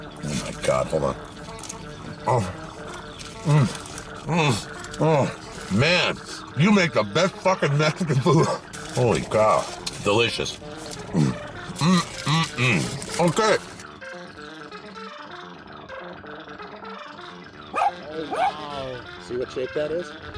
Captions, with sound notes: Oh my God. Hold on. Oh. Mmm. Mmm. Oh, Man. You make the best fucking Mexican food. Holy cow. Delicious. Mm, mmm, mm, okay. [dog barking] Oh, wow... - See what shape that is?